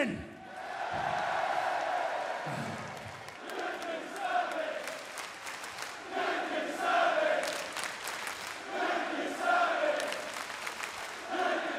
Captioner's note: crowd cheering